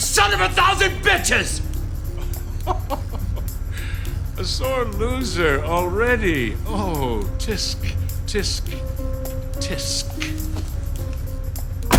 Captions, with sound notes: Hey, forget you, you son of a thousand bitches! [ Chuckles ] A sore loser already. Oh, tsk, tsk, tsk.